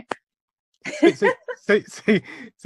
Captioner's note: laughs